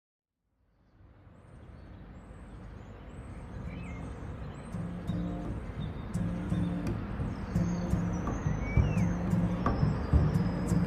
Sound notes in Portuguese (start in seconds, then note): 2.3 Canto de pássaros